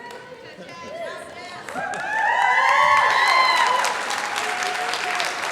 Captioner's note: laughter; chatter